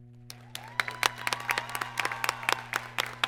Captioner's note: applause